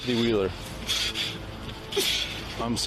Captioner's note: sobs